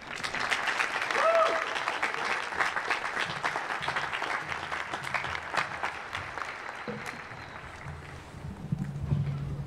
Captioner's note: applause